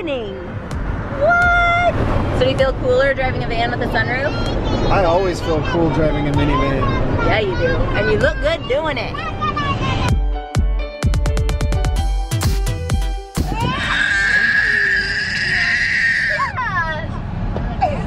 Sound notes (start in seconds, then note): 10.0 techno music; 13.5 screaming